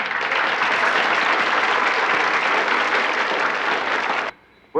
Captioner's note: audience applauding